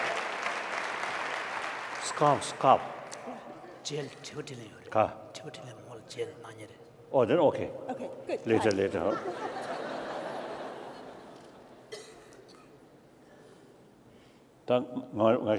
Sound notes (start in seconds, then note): 4.2 speaking foreign language; 8.9 laughter; 14.1 speaking foreign language